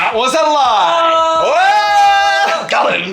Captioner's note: shouting